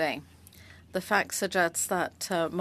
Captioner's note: speaking French